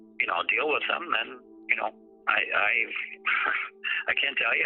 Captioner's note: chuckling